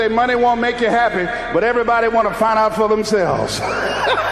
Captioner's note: laughs